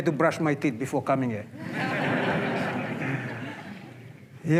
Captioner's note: laughter